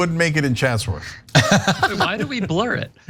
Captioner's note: laugh